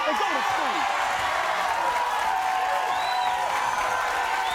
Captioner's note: audience cheers